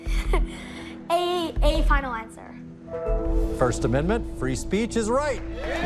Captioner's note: laughs